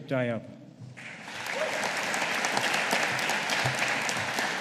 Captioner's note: audience applauding